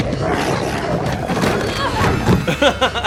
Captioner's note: more growling